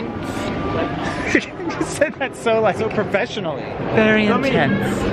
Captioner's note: laughing